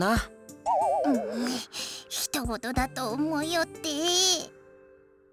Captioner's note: grumble